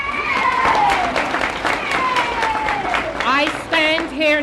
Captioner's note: applause